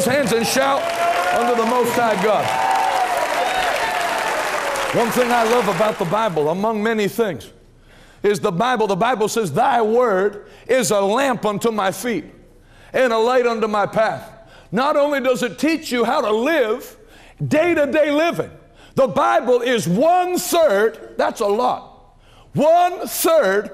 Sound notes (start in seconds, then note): 2.3 clapping and shouting